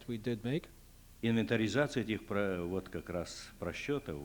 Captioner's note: non-english speech